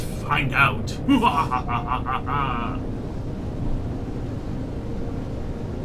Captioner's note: evil laughs